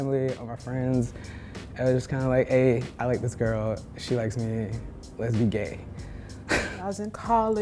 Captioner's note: laughter